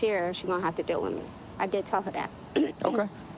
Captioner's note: clearing throat